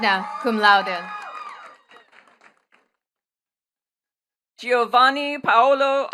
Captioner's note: attendees cheering and clapping